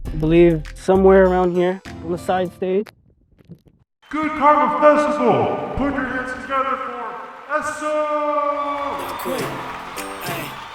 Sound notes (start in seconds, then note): 4.1 crowd applause; 7.5 big crowd applause